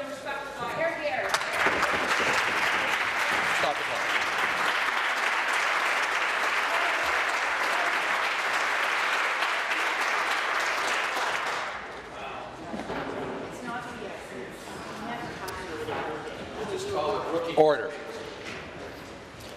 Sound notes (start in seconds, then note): 3.6 voice fading; 4.6 applause